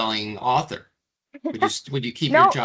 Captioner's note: laughing